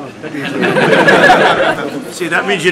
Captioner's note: laughter